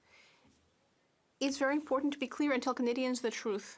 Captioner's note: speaking French